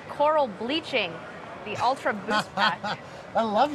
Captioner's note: laughs